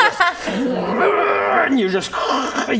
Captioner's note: huuuuah